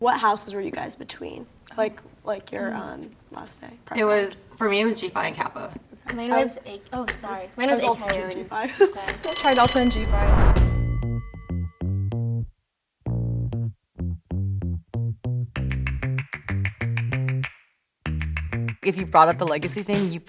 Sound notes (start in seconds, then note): 9.2 bell rings